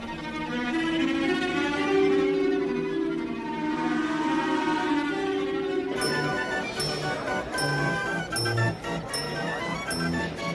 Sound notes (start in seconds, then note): 4.5 boat horn blowing; 9.1 waltz music